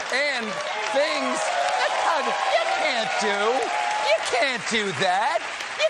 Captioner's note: cheers and applause; laughter